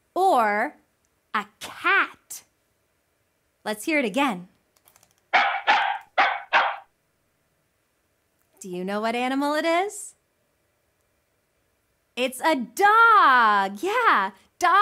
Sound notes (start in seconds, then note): 5.3 dog barks